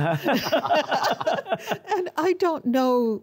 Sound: all laugh

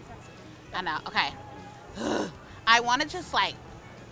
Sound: groans

